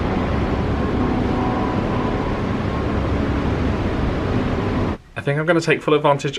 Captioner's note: sea sounds and wind blowing